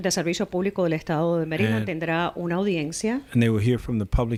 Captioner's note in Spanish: Hablando ingl\s